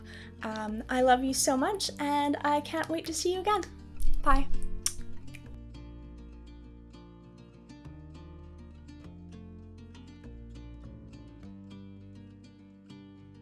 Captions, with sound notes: I love you so much and I can't wait to see you again! Bye! *kiss*